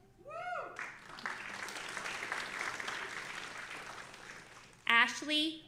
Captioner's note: audience applauding